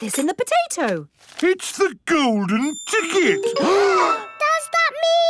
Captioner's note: gasps